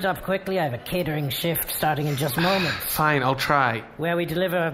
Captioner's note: sighs